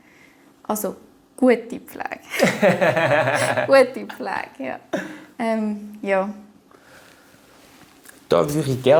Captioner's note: laughter